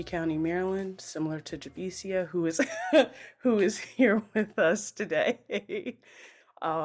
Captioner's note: laughs